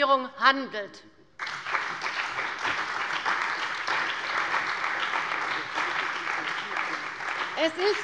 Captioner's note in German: Beifall bei der CDU und dem BÜNDNIS 90/DIE GRÜNEN